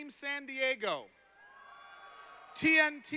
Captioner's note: applause